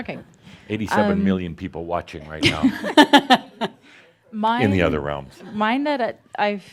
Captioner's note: she chuckles